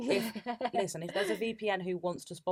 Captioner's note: laughs